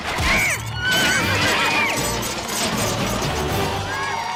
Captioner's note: grunts; neighs; cheering